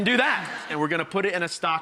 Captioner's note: laughter